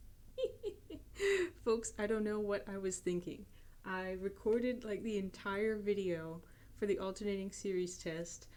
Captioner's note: giggling